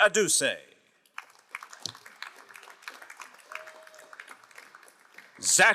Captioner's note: crowd applauding